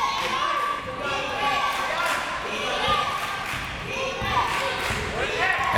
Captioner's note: crowd members shouting; crowd members chanting